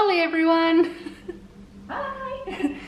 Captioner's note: chuckling